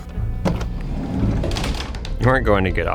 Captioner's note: door slides opens